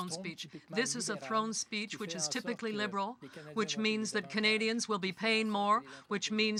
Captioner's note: speaking french